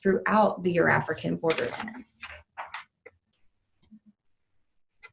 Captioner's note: pages rustling